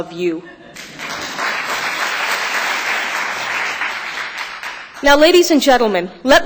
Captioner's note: applause